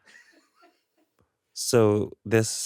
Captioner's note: chuckles weirdly; crew laughing